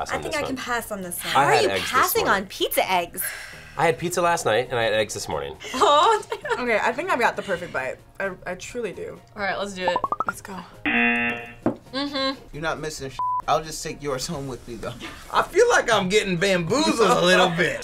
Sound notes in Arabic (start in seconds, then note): 10.8 زمارة; 10.9 طنين الجرس